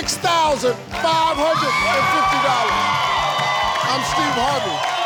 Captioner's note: all cheering